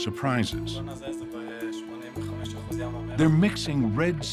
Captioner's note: speaking Hebrew